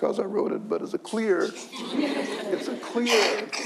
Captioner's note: audience laughs